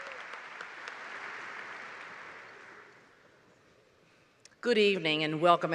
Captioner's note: applause